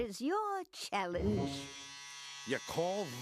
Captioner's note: buzzing